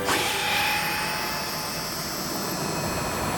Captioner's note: zap!